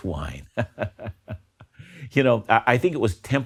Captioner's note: laughs